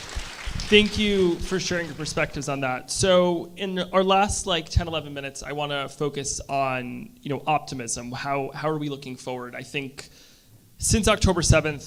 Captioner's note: applause